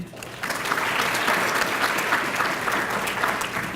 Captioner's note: applause